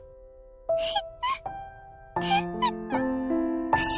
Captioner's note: whimper